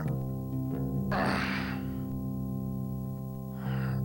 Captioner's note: grunts